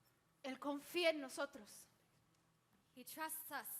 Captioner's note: speaks in Spanish